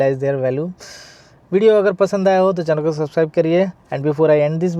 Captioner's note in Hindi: गहरी सांस लेने की आवाज़